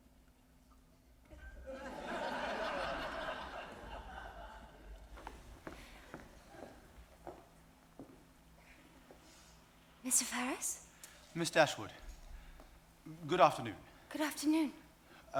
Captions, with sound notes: (audience laughing) - Mr. Ferrars? - Miss Dashwood, good afternoon. - Good afternoon.